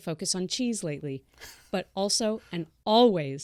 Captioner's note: laughs